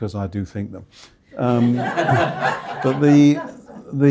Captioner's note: audience laughing